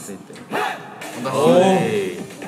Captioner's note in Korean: 우렁찬 기합